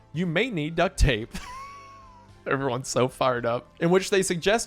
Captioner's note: laughs